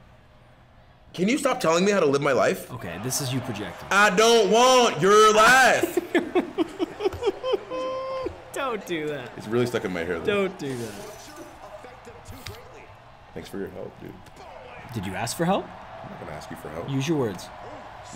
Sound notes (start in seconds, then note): 5.0 laugh